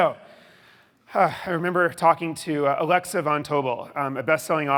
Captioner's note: sighs